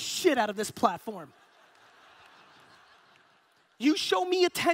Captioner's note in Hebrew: הקהל צוחק